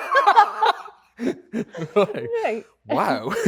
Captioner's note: both laughing